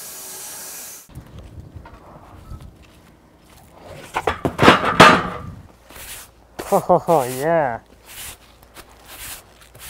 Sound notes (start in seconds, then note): 4.6 loud bang